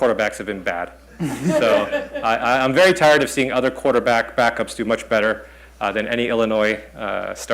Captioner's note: laughter